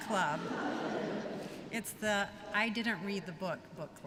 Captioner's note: laughter